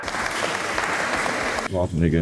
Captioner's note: applause